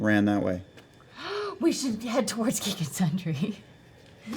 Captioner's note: gasps